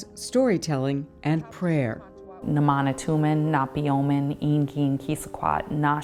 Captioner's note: speaking Narragansett